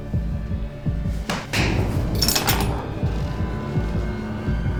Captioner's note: A fist hits